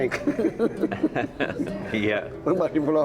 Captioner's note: chuckling